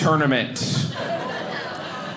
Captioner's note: audience laughing